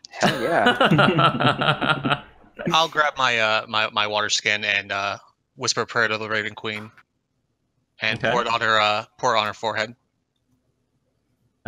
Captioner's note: laughter